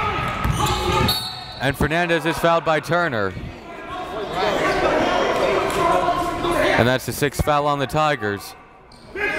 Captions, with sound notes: (whistle blows) And Fernandez is fouled by Turner. (players bustling loudly) And that's the sixth foul on the Tigers.